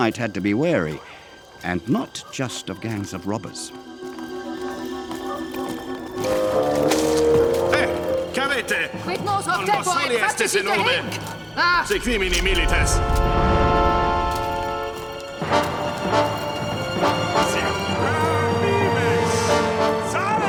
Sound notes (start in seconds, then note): 4.5 ominous music; 7.8 people speaking foreign language